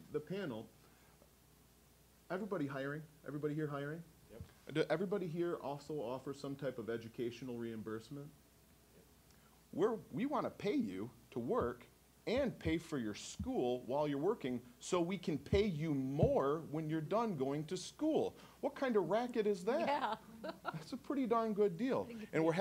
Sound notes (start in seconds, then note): 19.7 laughing